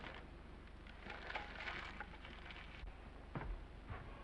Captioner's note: paper crinkling; footsteps approaching